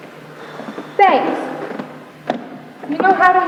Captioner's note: sighs